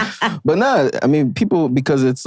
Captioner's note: laughing